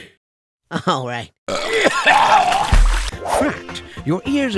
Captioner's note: vomits; voiceover